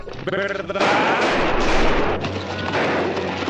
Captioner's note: gunshots